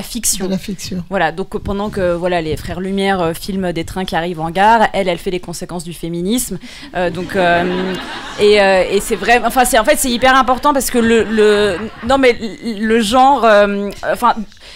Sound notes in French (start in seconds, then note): 7.0 rires